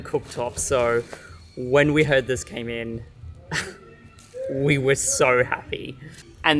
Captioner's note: laughs